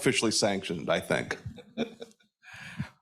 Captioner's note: laughs